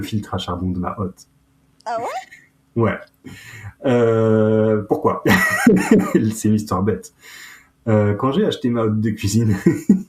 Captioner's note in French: rires